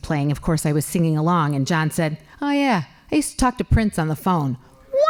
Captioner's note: laughing